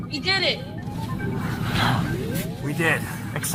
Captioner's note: sighs in relief